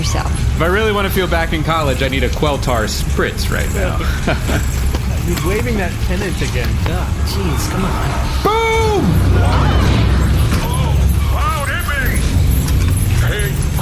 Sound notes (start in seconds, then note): 3.7 laughs and waves